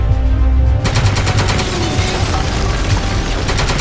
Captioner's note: guns shooting